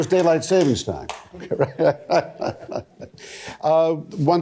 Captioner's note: laughs